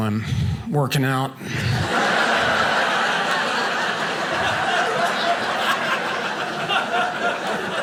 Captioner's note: audience laughing